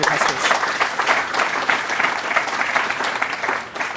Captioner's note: applause